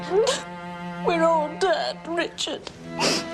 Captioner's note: crying